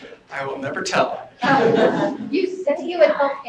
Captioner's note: laughter